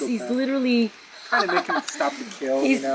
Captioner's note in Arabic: يضحك